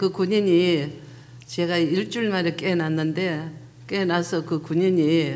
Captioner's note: speaking foreign language